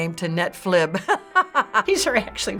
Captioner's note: laughing